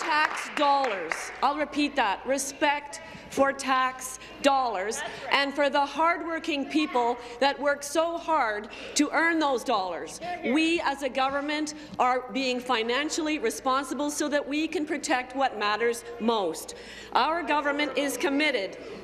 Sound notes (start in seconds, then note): 0.0 applause